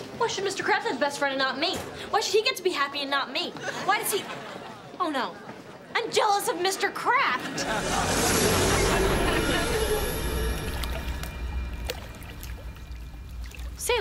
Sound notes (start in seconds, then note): 7.5 magic roars; 10.4 water trickles